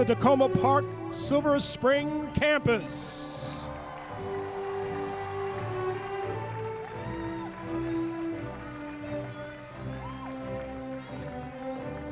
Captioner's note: applause